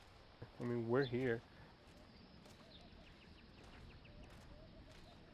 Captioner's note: birds chirping